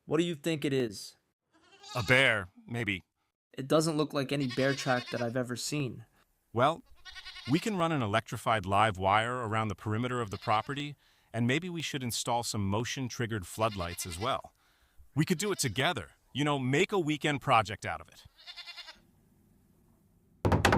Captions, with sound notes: What do you think it is? - A bear. Maybe. - It doesn't look like any bear track that I've ever seen. - Well, we can run an electrified live wire around the perimeter of the property and maybe we should install some motion triggered floodlights as well. We could do it together, you know, make a weekend project out of it. [Goat bleats]